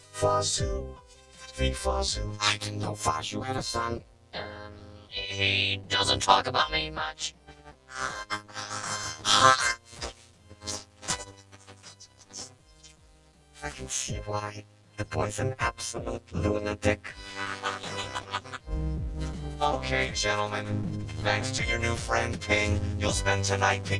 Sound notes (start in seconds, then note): 7.9 snorting; 8.0 chuckles; 17.2 chuckling